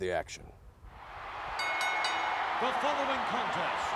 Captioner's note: crowd cheering wildly; bell dings